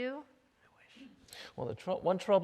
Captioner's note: whispers